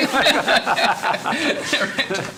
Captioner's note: laughing